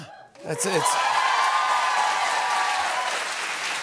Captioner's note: applause